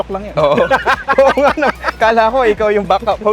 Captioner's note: laughs